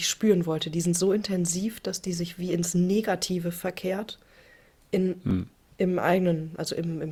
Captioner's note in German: räuspern